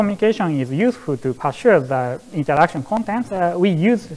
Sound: murmurs

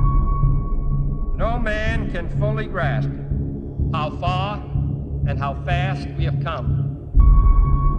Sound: voiceover

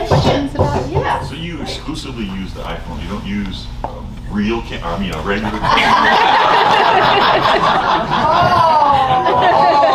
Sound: laughter

